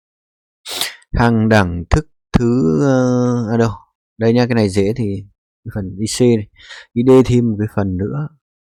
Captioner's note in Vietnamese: khịt mũi